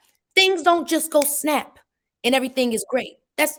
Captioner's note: fingers snapping